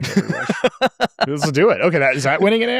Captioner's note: laughs